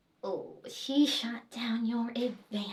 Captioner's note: none